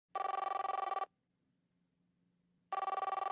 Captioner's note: ring, ring